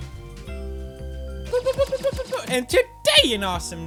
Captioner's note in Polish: pew pew pew pew pew